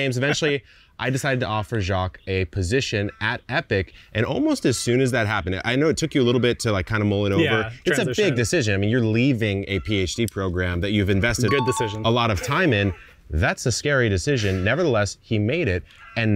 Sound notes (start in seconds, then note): 11.4 bell dinging